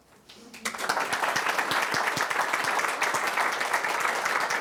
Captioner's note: applause